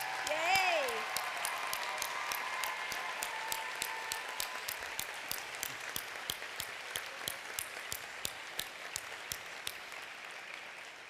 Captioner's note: applause